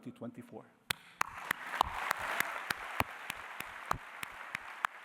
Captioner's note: applause